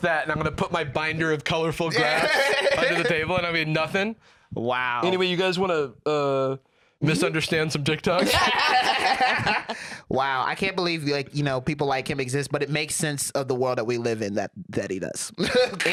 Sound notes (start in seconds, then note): 8.1 laugh